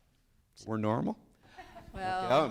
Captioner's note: people laughing